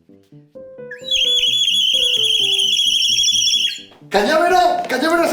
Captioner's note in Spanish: Sonido de pájaros